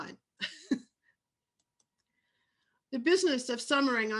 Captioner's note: laughs